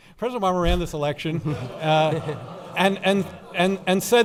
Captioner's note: laughing